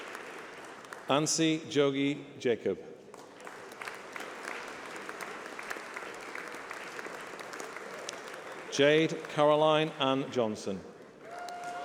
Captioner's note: applause